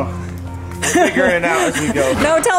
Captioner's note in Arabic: يضحك